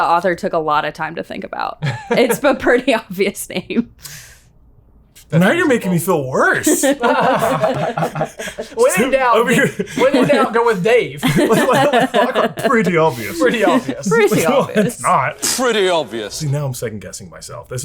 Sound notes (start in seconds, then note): 6.4 laughing